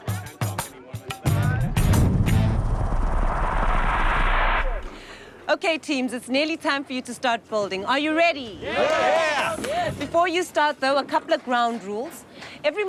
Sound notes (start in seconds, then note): 1.6 swirling sound